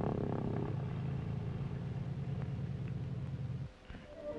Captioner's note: engine purrs